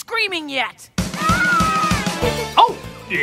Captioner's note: scream of delight